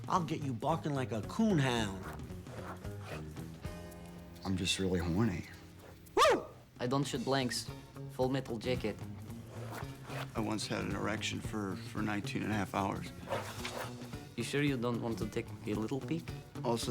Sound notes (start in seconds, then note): 6.1 man barks